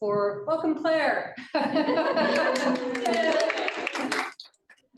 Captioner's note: laughter and appluse